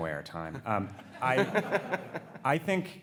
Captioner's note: audience laughs